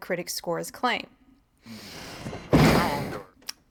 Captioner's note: deep inhale